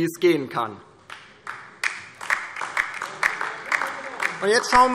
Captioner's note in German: Beifall DIE LINKE